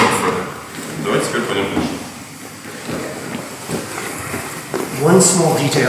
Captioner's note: speaking in a foreign language